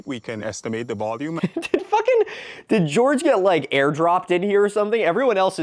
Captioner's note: laughing